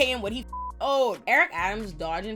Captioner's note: beep